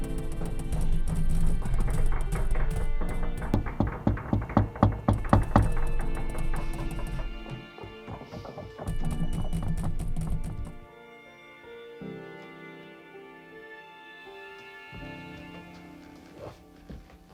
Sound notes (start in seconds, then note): 3.4 door banging